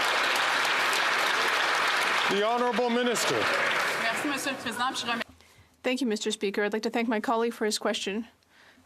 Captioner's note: some Applause